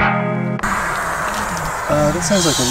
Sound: intense music; tyre hissing

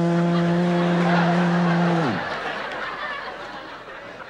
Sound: whirring; audience laughing

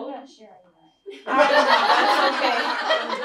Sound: laughter

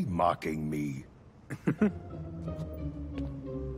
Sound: chuckling

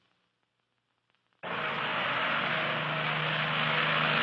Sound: buzzing

